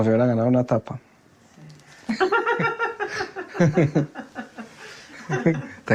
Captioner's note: woman laughs